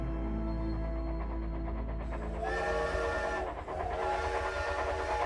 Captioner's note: train whistle blares